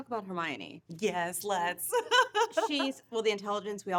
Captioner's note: laughing